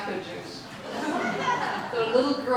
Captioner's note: audience laughing